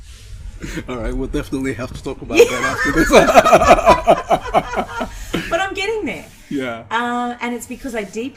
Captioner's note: both laugh